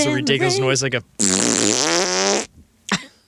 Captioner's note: farting noise